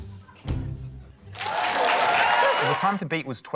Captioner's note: cheering, applause